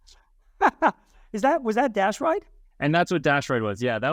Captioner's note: laughs